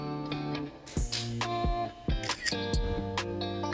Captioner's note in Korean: 찰칵